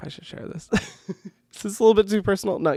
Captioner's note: laughs